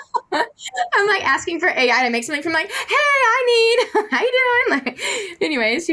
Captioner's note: laughs